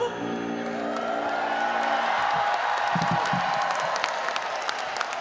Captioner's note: audience applauding and cheering